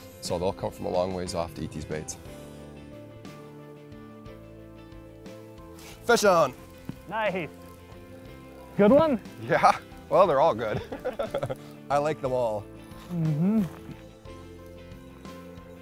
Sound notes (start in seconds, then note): 10.6 laughs